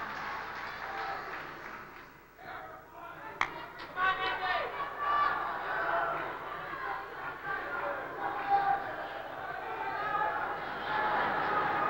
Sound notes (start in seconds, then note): 5.2 cheering continues